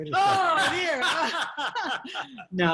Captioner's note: people laughing